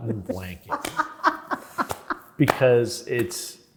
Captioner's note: laughs